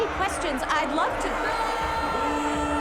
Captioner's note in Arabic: صيحات استهجان الجماهير، صيحات